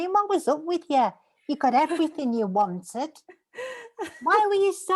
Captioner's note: sonia laughs